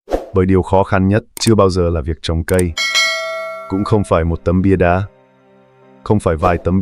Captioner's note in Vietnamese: chuông